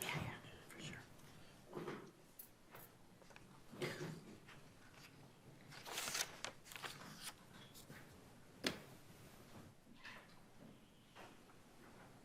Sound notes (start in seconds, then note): 5.6 papers shuffling